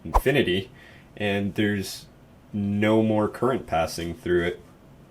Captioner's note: whoosh